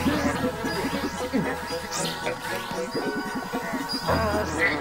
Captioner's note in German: summend; grunzt; lautes Summen; schnappt nach Luft